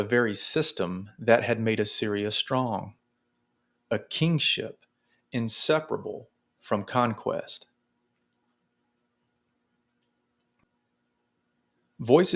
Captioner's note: long pause